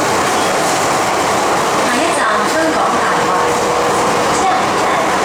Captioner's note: Cantonese